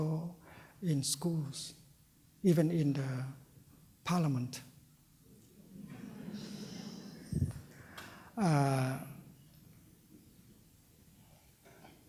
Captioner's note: laughter